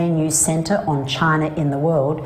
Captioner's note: non-english speech